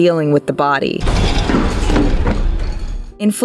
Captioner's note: crashing sounds